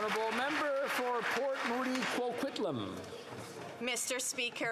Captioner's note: applause